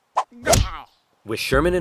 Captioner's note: thumping